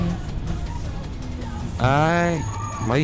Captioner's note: loud sounds of overheated brakes